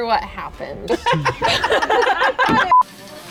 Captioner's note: laughter